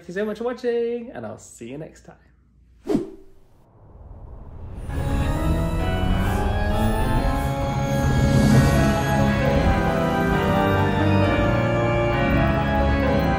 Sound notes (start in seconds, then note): 2.8 screen wipe whooshes; 4.8 spooky organ music